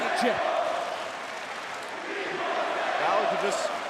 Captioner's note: crowd chatter